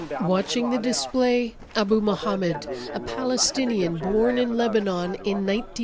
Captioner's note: speaking alternate language